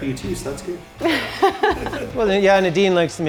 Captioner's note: both laughing